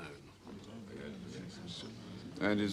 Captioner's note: Para penonton bergumam